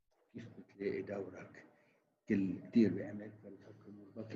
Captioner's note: chattering